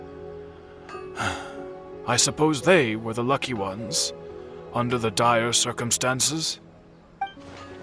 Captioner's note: sigh